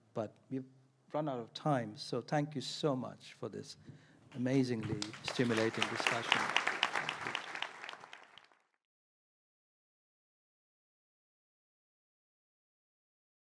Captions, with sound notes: But we've run out of time. So thank you so much for this amazingly stimulating discussion. (audience and speakers applaud)